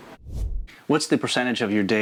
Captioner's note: air whooshing